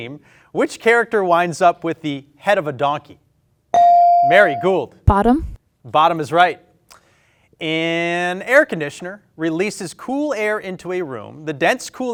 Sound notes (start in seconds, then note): 3.7 bell ring